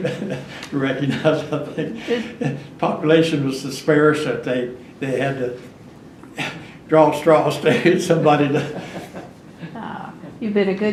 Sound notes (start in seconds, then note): 7.8 laughs